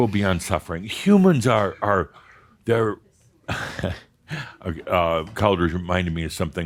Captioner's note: Adamus chuckles